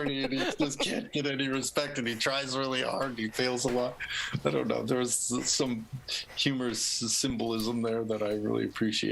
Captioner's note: laughter